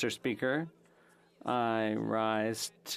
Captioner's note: speaking French